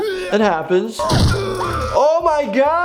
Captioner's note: Cuddles screams